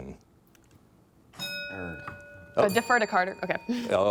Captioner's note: bell dinging